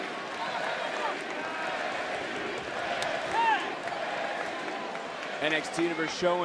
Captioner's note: crowd chants